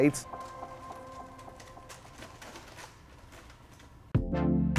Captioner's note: paper softly rustling